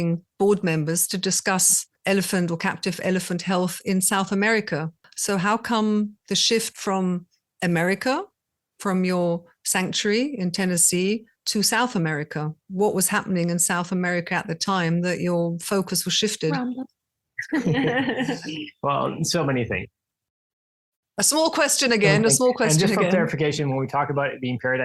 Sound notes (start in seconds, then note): 17.4 laughing